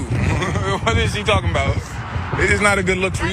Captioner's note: laugh